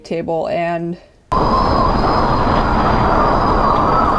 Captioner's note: wind whooshing